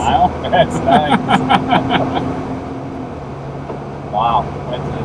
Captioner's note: laughter